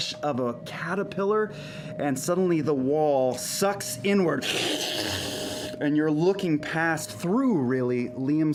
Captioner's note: sucking noise